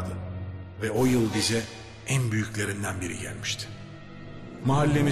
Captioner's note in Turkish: Ahmet dış ses